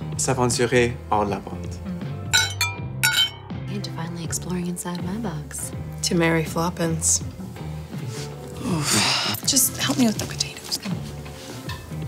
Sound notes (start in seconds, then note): 2.3 clinky clinky; 3.8 quietly